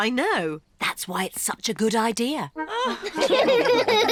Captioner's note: all laugh